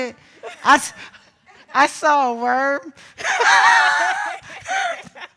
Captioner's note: laughs